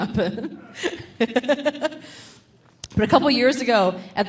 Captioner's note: laughing